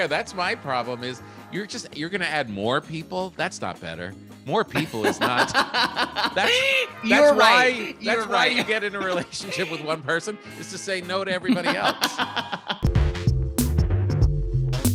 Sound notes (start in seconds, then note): 4.8 laughing; 12.1 upbeat music